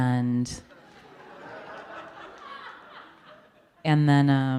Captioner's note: audience laughing